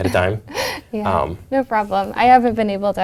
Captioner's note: laugh